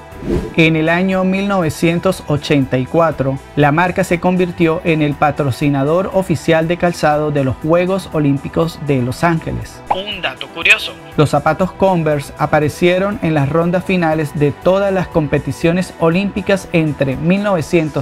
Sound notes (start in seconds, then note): 9.4 voice-over: A curious fact